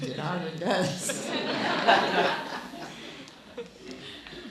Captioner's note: laughing